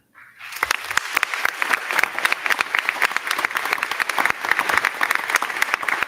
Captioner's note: crowd clapping; crowd cheering